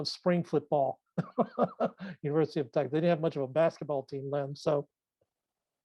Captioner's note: laughs